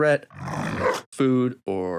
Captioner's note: sound effects: roaring lion